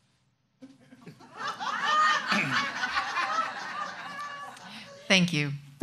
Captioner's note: audience laughs loudly